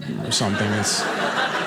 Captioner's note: audience laughing